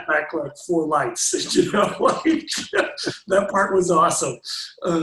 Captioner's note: laughs